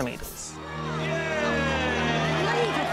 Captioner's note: cheering